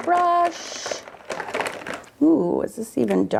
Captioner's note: markers rattling